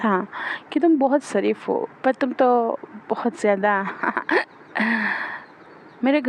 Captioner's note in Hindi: हंसी; अचानक ज़ोर से सांस लेने की आवाज़